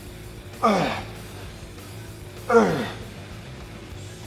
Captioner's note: Sheamus grunts